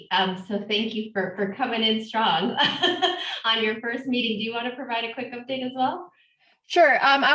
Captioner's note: laughs